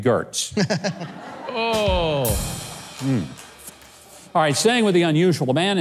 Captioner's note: audience laughs